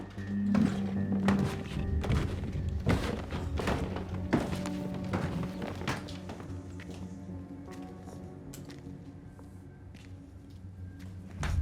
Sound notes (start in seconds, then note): 1.9 footsteps thumping; 7.4 intense music continues